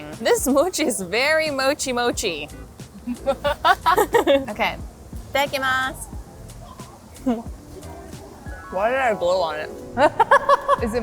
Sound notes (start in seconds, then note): 2.9 laughs; 2.9 laughing; 6.3 laughs; 10.0 laughing